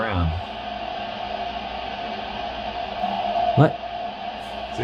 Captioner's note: water rushing